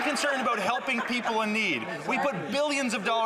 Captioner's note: some Applause